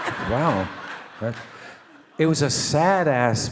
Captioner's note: all laugh